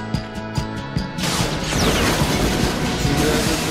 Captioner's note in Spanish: explosiones